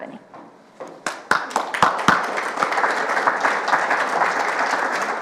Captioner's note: audience applauding